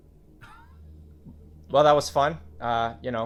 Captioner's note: laughing